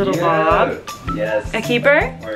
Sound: cheering

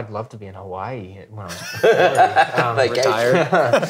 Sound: laughing

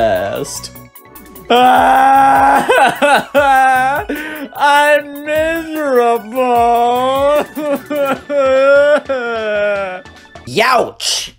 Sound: sobbing

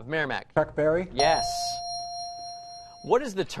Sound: ding

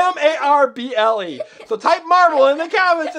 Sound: laughs

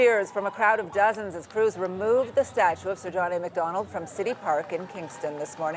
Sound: cheering and Applause

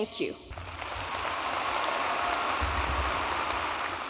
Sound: audience applauding

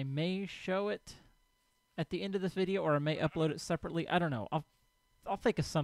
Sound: sheep bleats

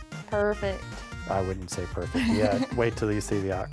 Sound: laughs

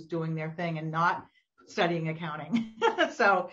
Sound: laughs

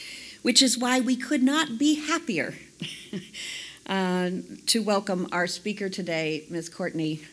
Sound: laugh

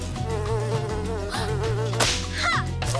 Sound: gasps

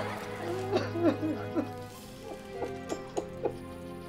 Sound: crying

